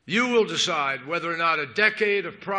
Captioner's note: none